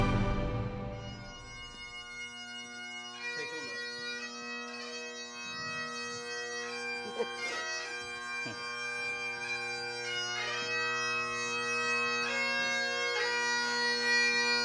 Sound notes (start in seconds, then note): 0.0 bag pipes; 0.9 crying; 10.9 bag pipes